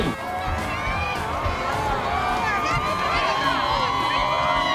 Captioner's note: crowd cheering